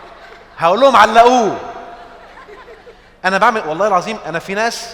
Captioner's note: laughs!